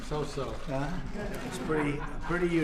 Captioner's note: laughter